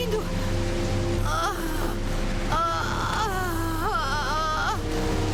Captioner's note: groaning